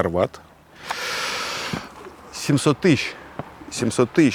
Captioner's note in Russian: Набирает воздух